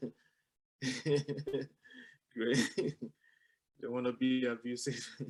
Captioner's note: laughter